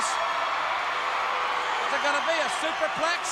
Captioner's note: crowd cheering